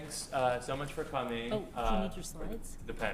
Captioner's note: side chatter